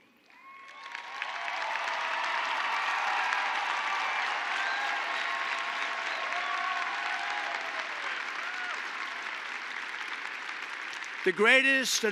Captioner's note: applause